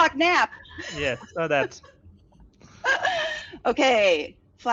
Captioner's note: laughs